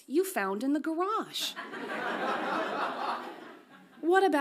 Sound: audience laughs

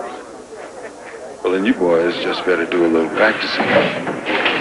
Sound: chair legs scooting

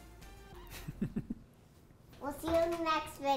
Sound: laughing

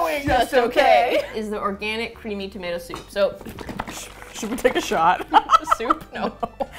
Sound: laughing; soup sloshes; laughs

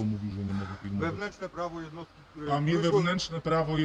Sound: sighs

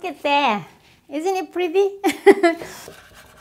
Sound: laughs

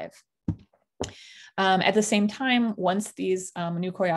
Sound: none

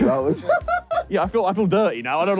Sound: JJ laughing

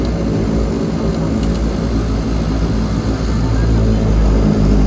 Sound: engine roaring

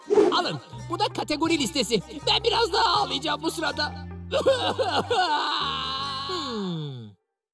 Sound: crying

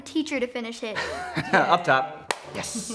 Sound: laughing

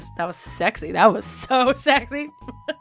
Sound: laughing

